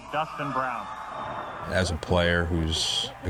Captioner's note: cheering